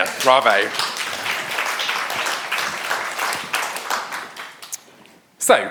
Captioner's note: audience applauding